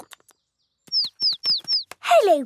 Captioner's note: chirping